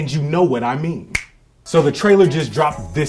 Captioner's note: fingers snap